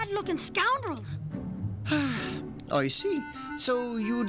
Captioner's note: sighs